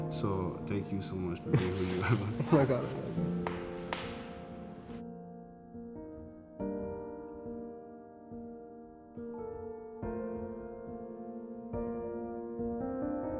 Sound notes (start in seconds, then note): 2.9 palm clapping; 4.1 bright piano music continues